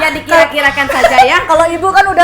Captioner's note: laugh